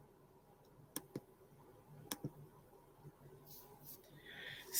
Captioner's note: keyboard clicking